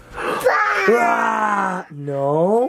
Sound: screeching

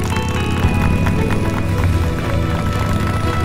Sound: clapping

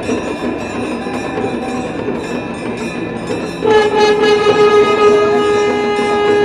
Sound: shankh blowing

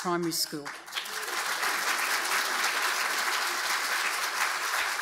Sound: audience applauding

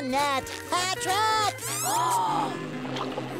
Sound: gasps

